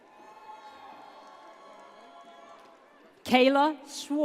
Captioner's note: audience cheers